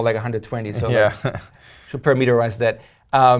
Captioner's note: laugh